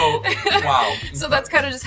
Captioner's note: laughing